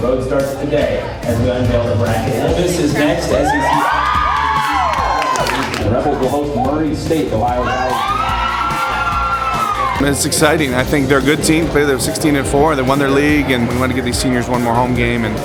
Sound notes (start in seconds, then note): 3.0 girls cheer; 8.9 girls cheer